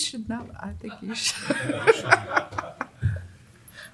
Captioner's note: laughter